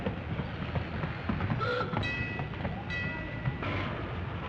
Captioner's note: car horn honks; bell dings